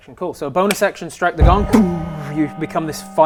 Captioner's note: donggg